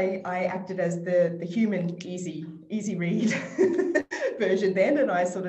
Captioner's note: laughs